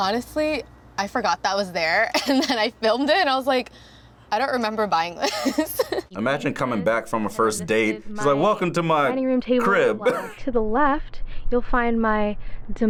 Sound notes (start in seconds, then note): 9.6 laughs